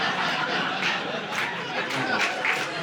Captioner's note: audience laughing